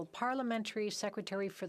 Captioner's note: speaking French